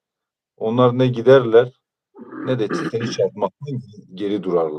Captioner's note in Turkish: boğazını temizler